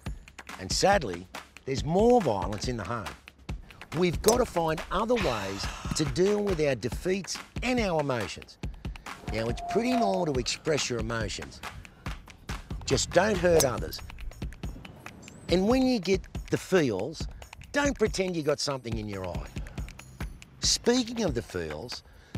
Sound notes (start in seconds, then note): 3.9 golf ball banging; 8.8 exhaling; 13.5 golf ball banging